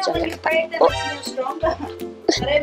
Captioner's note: hahahahaha